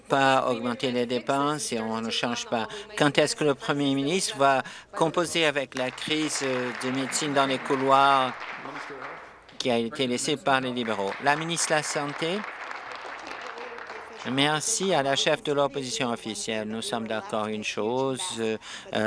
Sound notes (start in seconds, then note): 9.9 applause